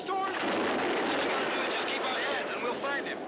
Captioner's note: thunder crashing